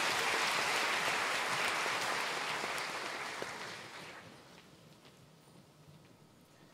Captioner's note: applause